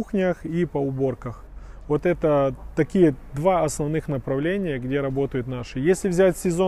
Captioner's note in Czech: Ukrainian